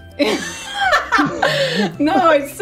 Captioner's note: laughing